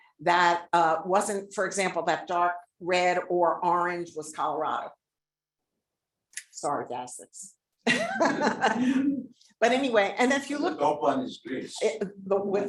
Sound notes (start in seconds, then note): 7.8 laughing